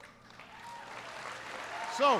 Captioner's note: applause